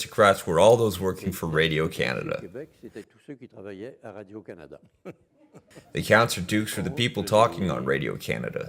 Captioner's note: laughs